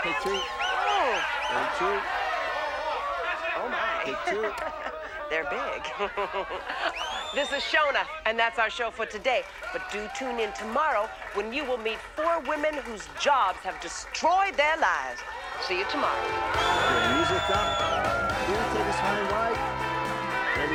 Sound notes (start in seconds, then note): 6.2 laughs